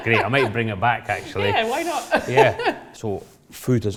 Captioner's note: laughs